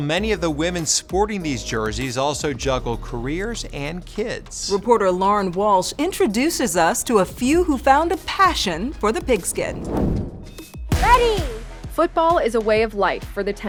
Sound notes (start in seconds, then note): 9.0 air whooshes